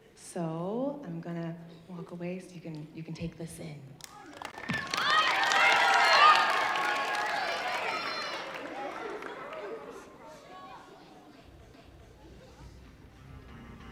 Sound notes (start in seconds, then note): 4.1 audience cheering